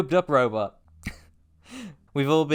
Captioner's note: choked laugh